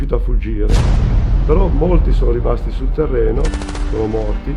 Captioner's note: explosions, submachine gun